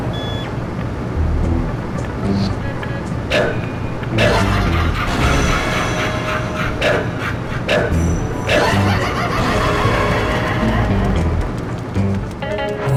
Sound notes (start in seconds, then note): 4.1 crazed laughter, blood explosions